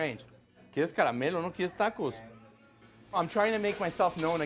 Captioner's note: foreign language